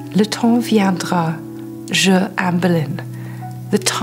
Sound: speaks in foreign language

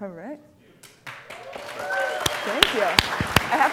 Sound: applause

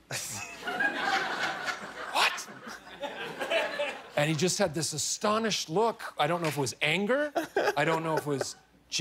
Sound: laughter

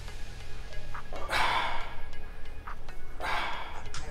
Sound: exhales

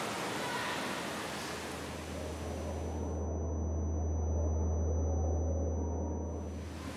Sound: tinnitus

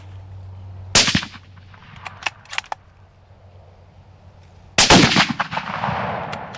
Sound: gun firing

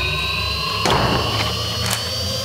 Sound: slam

